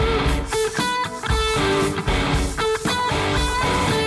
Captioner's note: rock music; brush scraping